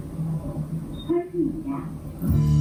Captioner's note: bipbip